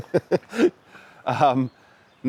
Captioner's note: laughing